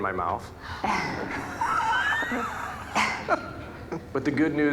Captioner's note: audience laughing